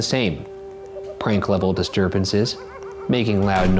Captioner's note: ghoul cackling